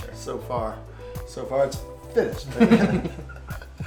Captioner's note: both laugh